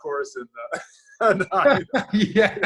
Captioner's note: laughs